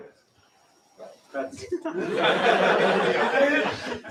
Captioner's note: laughter